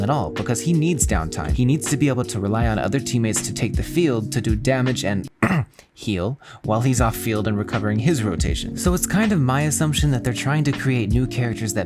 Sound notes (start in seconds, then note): 5.4 ahem